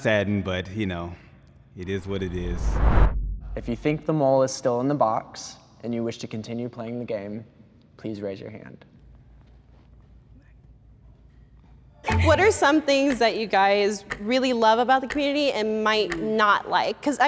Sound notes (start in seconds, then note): 1.8 woosh